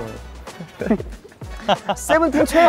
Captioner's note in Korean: ㅎㅎㅎㅎ